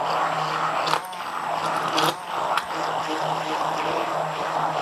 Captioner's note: mixer continues whirring